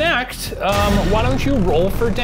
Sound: echoing clang

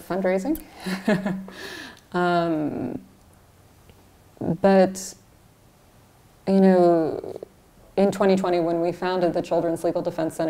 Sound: laughs

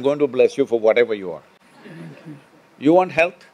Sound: laughter

